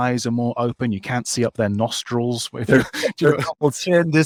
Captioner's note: laughs